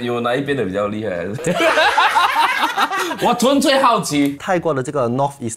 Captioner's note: laughs